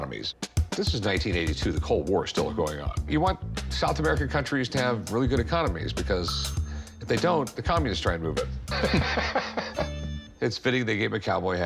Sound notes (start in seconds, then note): 8.7 laughter